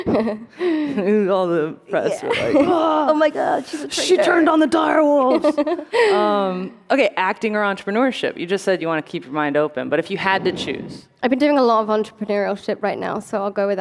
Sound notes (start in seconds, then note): 5.2 laughter